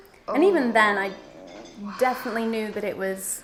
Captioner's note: moaning